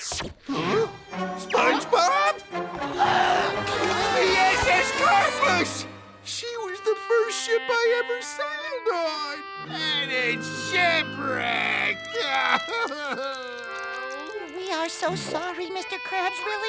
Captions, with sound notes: Huh? SpongeBob?! [gasping] The S.S. Platypus! She was the first ship I ever sailed on. And it's shipwrecked. [crying] We are so sorry, Mr. Krabs. Really, we are.